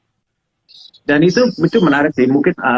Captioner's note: non-english speech